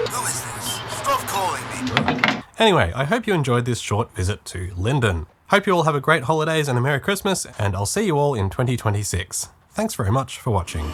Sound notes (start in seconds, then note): 2.0 hang up clank